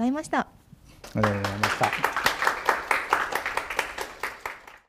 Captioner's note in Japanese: 拍手する音